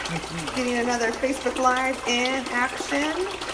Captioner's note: tank gurgling from air flow